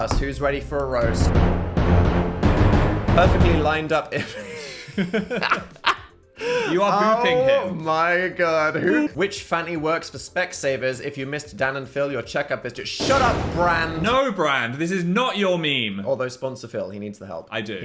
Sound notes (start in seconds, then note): 0.0 dramatic music; 4.1 laugh